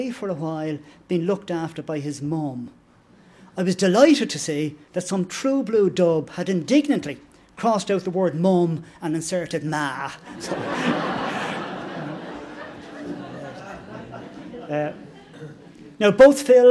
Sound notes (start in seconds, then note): 14.6 laughter